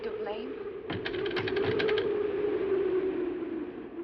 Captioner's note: shrews chattering